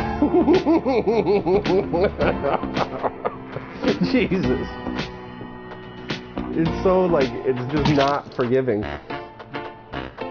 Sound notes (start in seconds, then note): 6.4 coughing; 7.7 more laughing